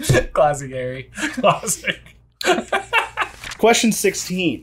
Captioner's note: laughter